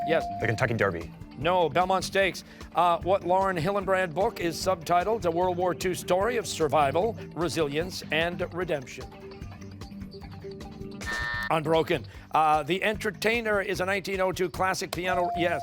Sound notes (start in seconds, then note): 10.7 timer